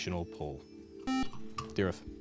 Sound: buzzer

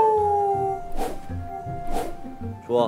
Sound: swishing rather carelessly

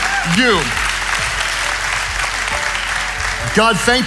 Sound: audience applauding

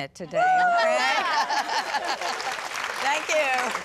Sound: laughter, applause

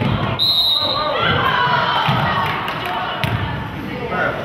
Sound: whistle blows

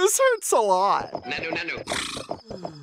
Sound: huffs

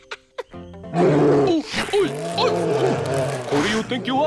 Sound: laughs; bear roars

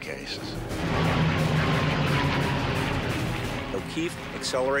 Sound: engine roaring

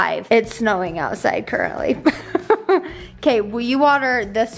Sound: laughs

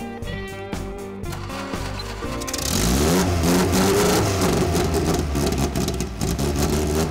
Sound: engine revving; exhaust rumbling

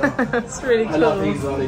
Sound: laughing

